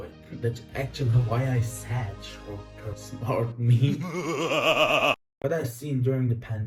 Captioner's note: laugh